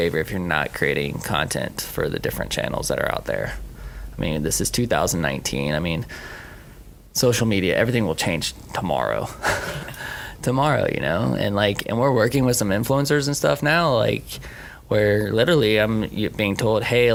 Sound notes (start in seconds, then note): 9.3 laughing